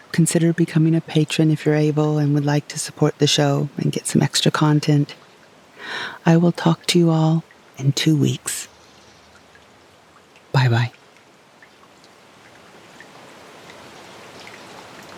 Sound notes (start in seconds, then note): 11.0 rain sounds; 13.0 water sounds